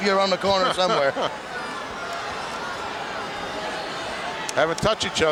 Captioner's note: Monsoon laughs